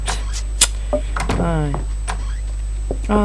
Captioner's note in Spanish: chasquido de auto-decepción